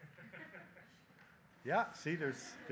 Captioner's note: audience chuckling